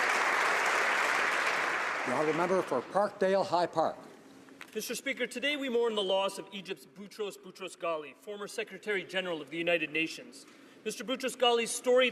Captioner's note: applause